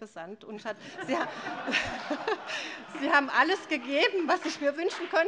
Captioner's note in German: Allgemeine Heiterkeit